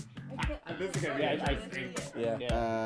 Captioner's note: laughing; singing